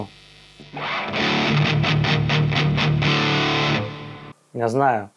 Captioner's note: High gain sound